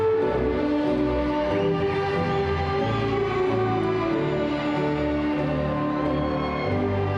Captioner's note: cheerful classical music; crowd cheering